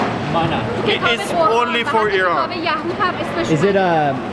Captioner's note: speaks in foreign language